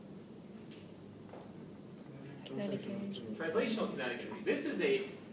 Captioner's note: background comments